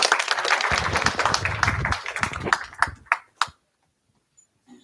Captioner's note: applause